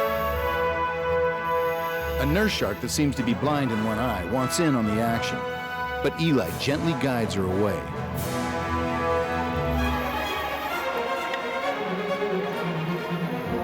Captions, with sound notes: A Nerf shark that seems to be blind in one eye wants in on the action but Eli gently guides her away. (scuba gear breathing)